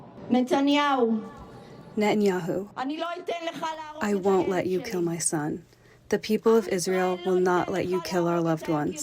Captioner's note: through translator